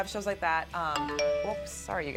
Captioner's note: message alert